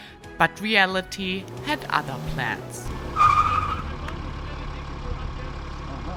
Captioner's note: car tires screeching